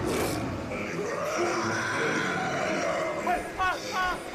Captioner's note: growls; howls